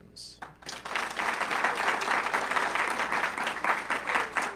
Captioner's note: audience clapping